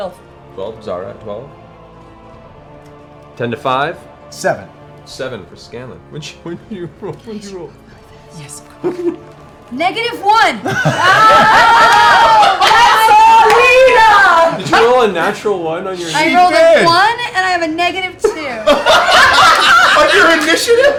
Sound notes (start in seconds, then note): 6.2 laughing; 10.6 laughter